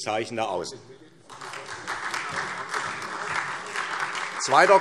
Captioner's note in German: Beifall SPD